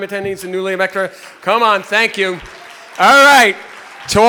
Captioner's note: people applauding